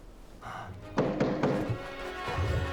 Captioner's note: knocking on door